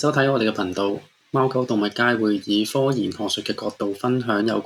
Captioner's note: Mandarin